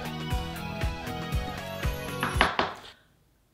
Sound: knock on door

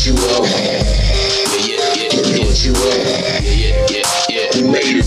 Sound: grrr…

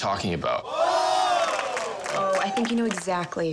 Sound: applause

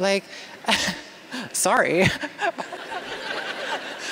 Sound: laughter

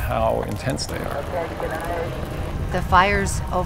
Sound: radio crackles

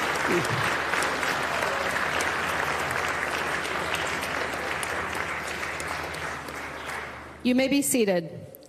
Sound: continued applause

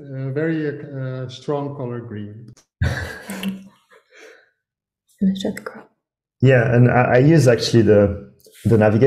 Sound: laughing

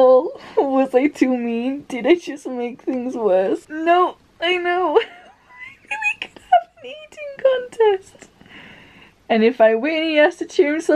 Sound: laughing

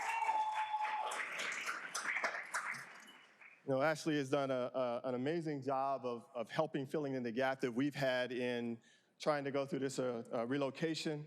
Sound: cheers and applause

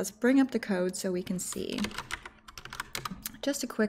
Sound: keyboard clicking

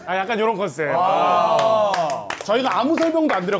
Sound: applause at the amazing acting

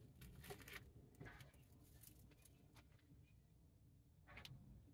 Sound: bird song

